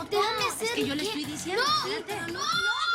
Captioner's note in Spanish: Hablan al unísono